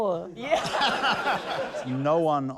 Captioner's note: laughter